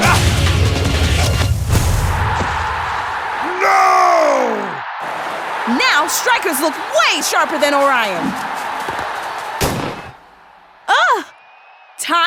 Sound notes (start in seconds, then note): 0.1 grunting; 1.8 crowd cheering